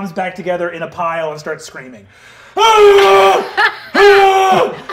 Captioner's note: wails